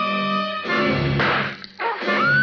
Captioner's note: axe slams; screams